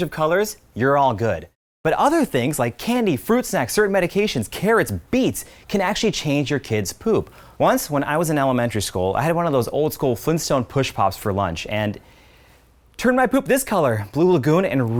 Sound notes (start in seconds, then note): none